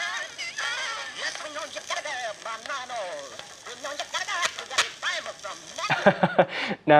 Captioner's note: crackling, scratches, high-pitched music and voices; laughs